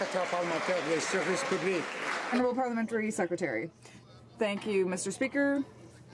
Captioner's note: some Applause